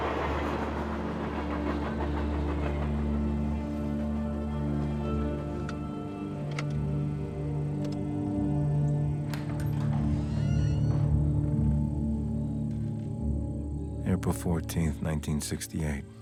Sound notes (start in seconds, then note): 1.4 somber music; 7.7 lights clicking; 9.1 door creaking; 9.5 insects chirping